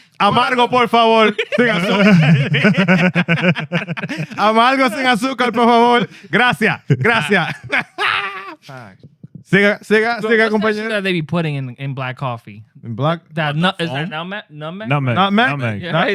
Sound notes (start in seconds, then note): 0.2 speaking Spanish; 0.3 laughter; 8.7 laughter; 8.7 speaking Spanish